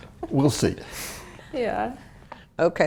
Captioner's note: laugh